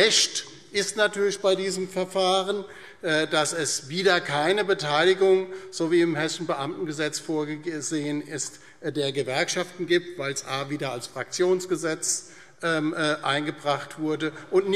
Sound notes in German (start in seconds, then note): none